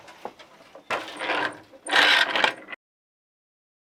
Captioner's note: noise of shuttle moving